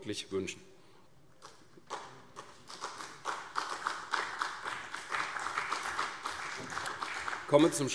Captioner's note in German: Beifall CDU und vereinzelt BÜNDNIS 90/DIE GRÜNEN